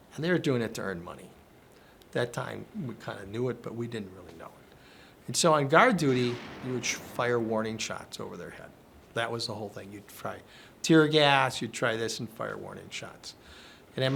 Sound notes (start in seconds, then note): 5.8 bombs echo faintly